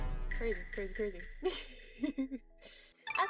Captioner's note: giggling